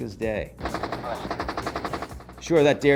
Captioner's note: rapid gunfire